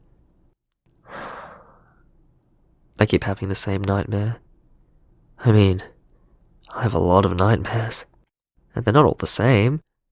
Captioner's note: sigh